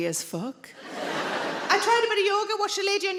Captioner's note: audience laughing